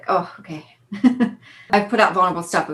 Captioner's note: laughs